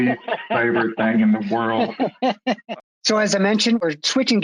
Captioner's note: laughing